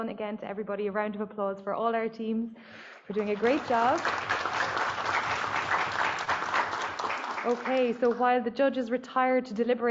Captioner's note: applause